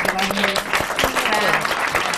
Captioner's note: applause